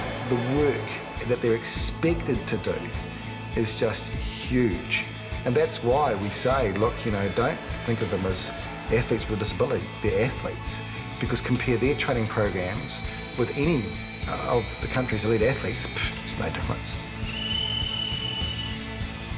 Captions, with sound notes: THE WORK THAT THEY'RE EXPECTED TO DO IS JUST HUGE. AND THAT'S WHY WE SAY, 'LOOK, YOU KNOW, DON'T THINK OF THEM AS ATHLETES WITH A DISABILITY; THEY'RE ATHLETES.' BECAUSE COMPARE THEIR TRAINING PROGRAMMES WITH ANY OF THE COUNTRY'S ELITE ATHLETES, THERE'S NO DIFFERENCE. (WHISTLE BLOWS)